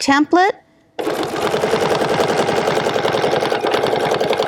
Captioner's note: machine whirring